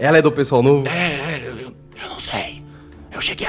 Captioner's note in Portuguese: sussurrando